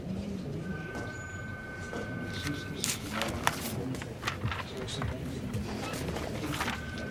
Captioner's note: people chattering; phone ringing